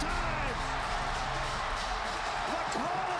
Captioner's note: crowd cheering